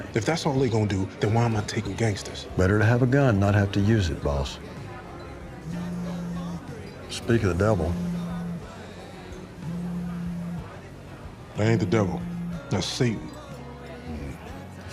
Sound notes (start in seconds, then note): 5.5 phone vibrates